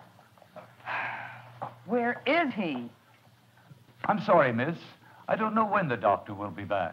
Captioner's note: sigh